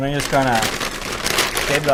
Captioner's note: paper rustles